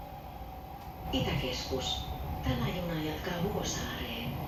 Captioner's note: metro announcement